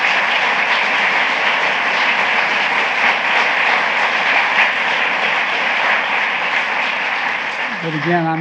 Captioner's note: applause